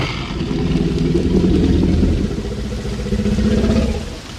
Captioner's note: creature growling